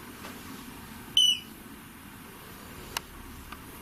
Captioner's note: beep